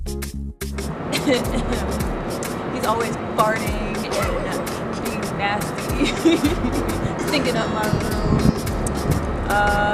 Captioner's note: laughs